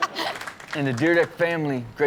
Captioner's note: audience applaud